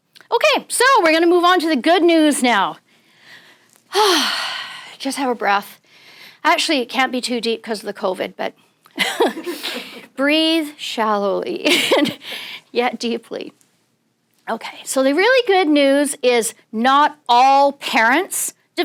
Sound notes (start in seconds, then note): 3.9 sighs